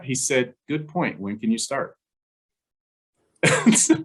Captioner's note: laughs